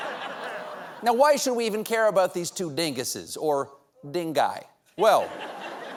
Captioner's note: laughter